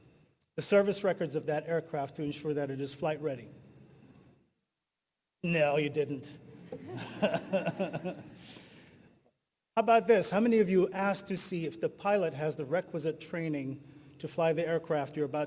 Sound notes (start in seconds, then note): 6.6 audience laughing; 6.6 laughing